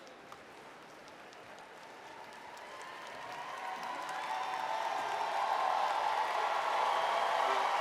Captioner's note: crowd Cheering